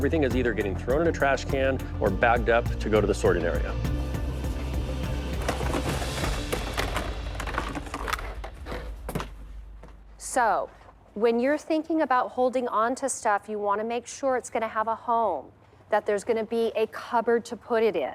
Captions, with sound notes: or bagged up to go to the sorting area. (tense music) (objects clattering) - So when you're thinking about holding onto stuff, you wanna make sure it's gonna have a home, that there's gonna be a cupboard to put it in.